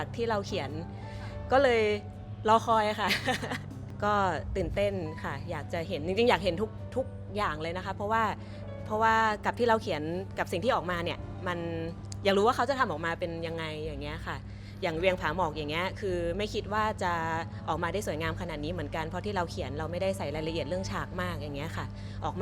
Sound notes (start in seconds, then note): 3.0 laugh